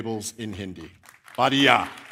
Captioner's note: applause; speaking hindi